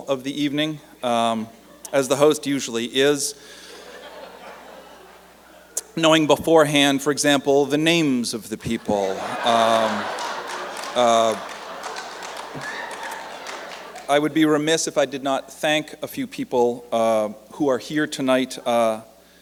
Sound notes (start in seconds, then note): 4.1 light laughter; 8.7 laughter and applause